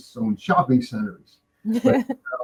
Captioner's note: stoner laughing